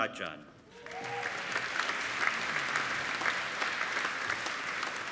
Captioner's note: applauding